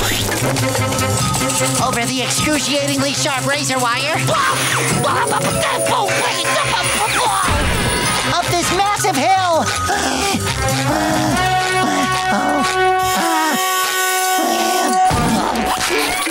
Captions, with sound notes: Over the excruciatingly sharp razor wire. [screaming] Up this massive hill. [panting]